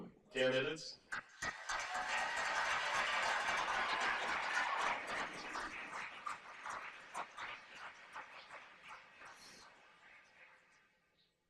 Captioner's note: cheers and applause